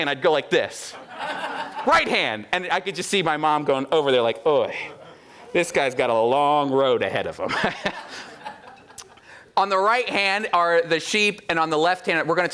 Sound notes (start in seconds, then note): 0.8 audience laughing; 7.5 laughs